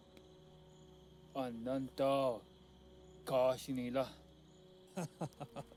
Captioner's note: speaking in foreign language; man laughing